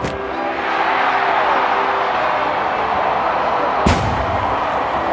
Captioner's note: fans cheering